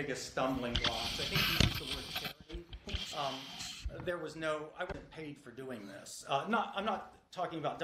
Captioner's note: mic moving